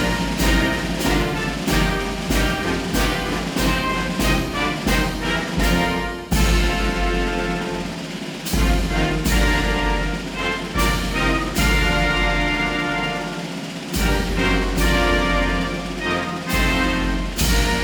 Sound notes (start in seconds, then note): none